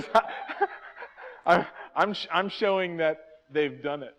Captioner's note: laughs